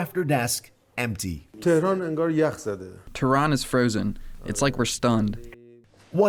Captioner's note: through translator